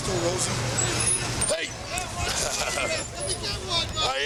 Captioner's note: laugh